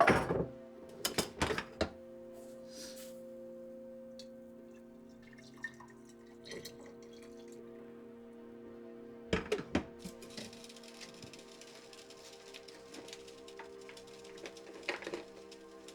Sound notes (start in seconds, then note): 0.0 metallic rattling; 5.1 coffee trickling